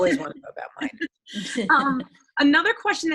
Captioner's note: chuckling